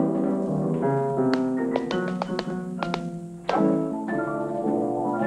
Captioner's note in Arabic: صوت نقر الأحذية